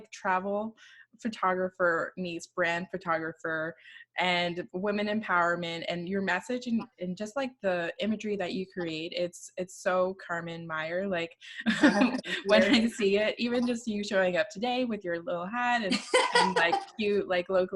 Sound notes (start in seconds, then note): 11.6 laughing; 11.7 laughs; 15.8 laughing